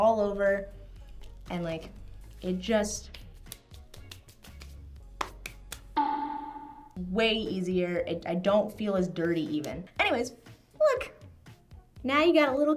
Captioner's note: boink Sound